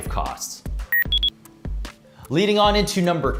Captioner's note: electronic beep